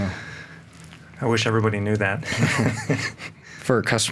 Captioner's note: laughs